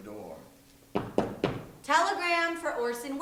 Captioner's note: knocking